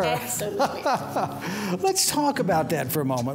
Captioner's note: laughs